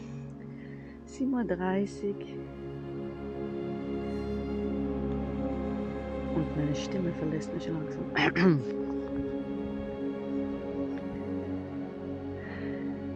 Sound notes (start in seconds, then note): 3.5 quiet music; 8.1 clears throat